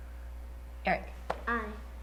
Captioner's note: tap